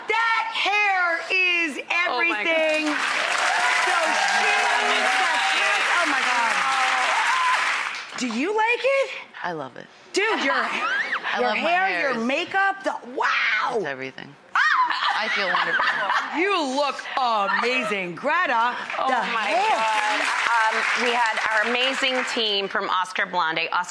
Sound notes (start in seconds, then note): 4.5 clapping